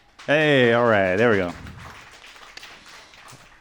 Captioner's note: audience clapping